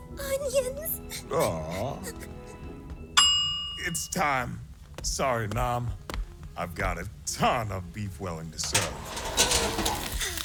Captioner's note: sniffly, happy tears; timer dings